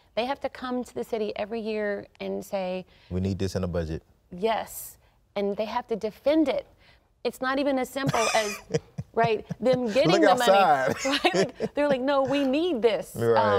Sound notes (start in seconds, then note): 8.0 laughs